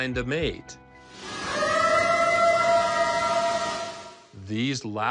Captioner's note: eerie howl